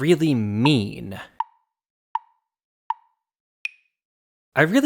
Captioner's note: tick, tick, tick, tick, tock